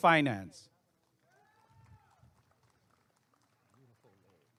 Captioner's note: applause and cheering